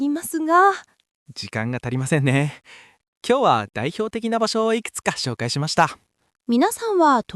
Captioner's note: haha